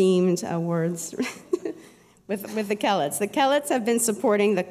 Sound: laughs

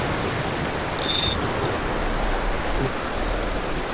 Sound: fishing line strains

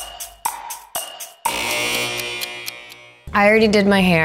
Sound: clock ticking; buzzer

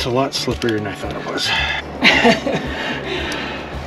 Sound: laughter

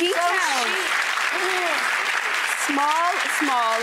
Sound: applause

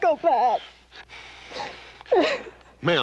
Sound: crying

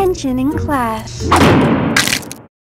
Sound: door slam

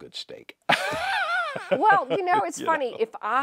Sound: laughs

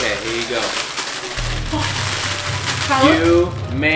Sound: plastic scrunching

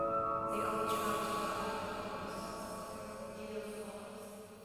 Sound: narrator's voice becomes distant

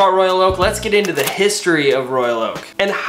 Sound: button clicking

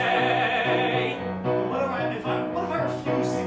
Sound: stammering

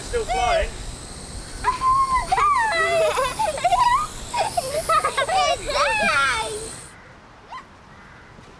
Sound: laughing and yelling

